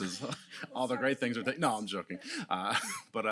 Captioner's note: laughs